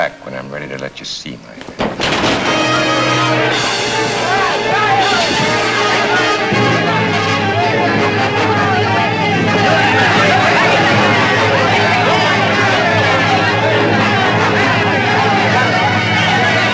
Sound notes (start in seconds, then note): 1.7 table crashes; 3.6 dramatic, exciting music